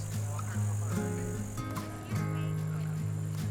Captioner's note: melodic forest music; wildlife chirping